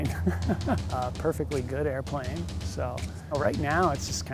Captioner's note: laughs